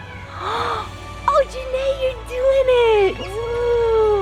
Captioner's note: gasps